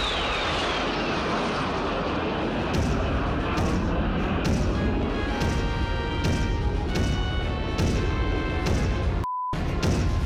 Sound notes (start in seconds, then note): 2.1 thunderous footsteps